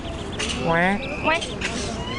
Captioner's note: imitating duck sounds